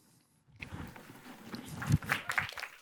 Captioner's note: applause